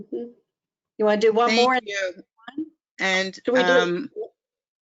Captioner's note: voiceover